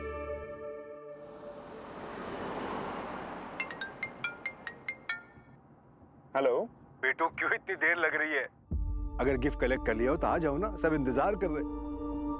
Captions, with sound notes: (phone ringing) - Hello. - Neel, why are you taking so long? If you have collected the gift, please come. Everyone is waiting.